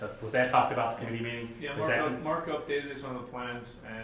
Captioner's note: none